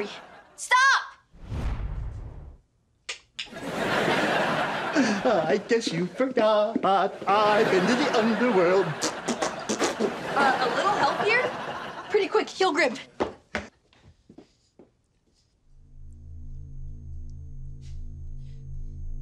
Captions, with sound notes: Now, Scary. Stop! (CLICKS TONGUE) (SINGSONG) I guess you forgot, I've been to the underworld. (BLOWS RASPBERRY) Uh, a little help here? Pretty, quick. Heal Grim. (PULSATING)